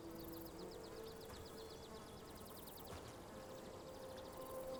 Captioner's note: birds chirping